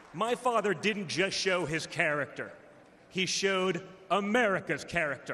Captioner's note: applause